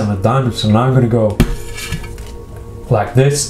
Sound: card scrapes glass

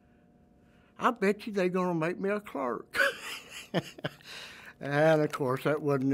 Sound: laughs

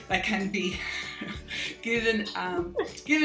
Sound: laughs

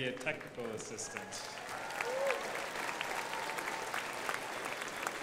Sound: crowd applauding

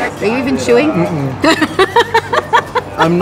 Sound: laughing

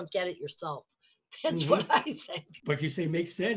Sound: laughs

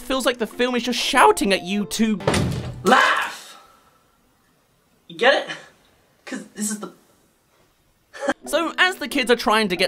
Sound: Jacksepticeye LAUGH

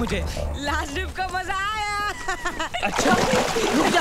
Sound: laughs

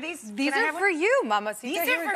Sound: speaks in foreign language

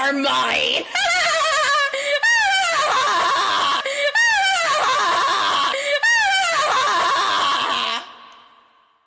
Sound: maniacal laughter

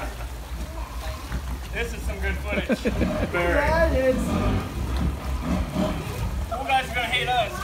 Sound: laughter on the background

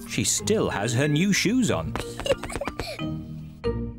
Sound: giggles

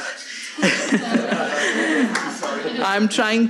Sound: all laughing

